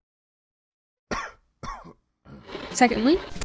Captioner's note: unimpressed cough